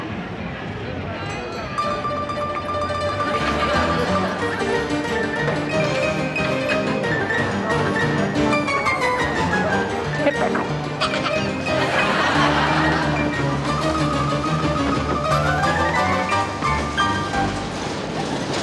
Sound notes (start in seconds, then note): 10.9 laughing